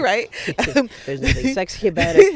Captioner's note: both laughing